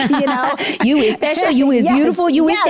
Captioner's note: laughs